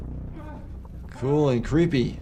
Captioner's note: Simon grunting